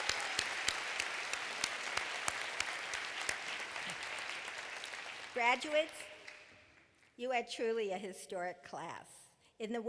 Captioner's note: applause